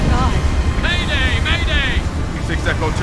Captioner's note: radio